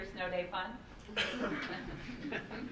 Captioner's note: laughing